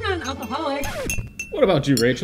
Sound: record skipping

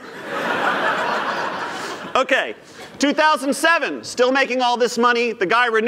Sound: laughter

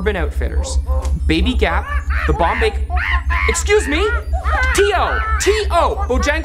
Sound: angry monkey noises

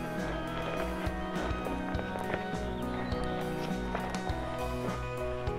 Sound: footsteps crunching

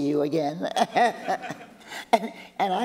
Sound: laughter

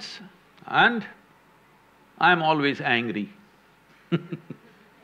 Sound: laughs

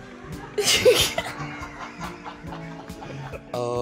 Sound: crew and all laugh

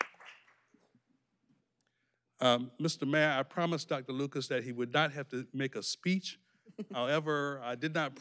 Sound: applause

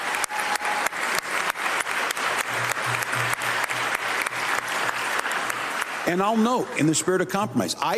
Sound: applause

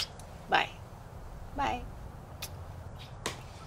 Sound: kisses

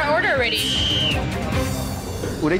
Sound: whistle

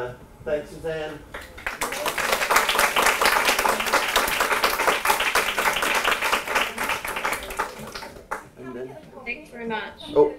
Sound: applause

